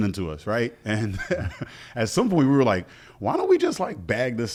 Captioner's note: chuckles